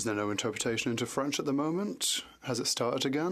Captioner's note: speaking French